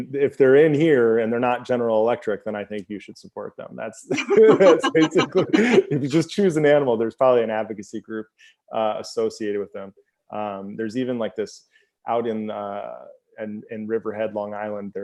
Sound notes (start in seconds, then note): 4.1 both laugh